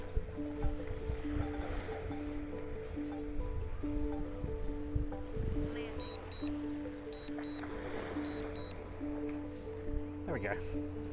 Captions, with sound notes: (soft music) (beeping) There we go.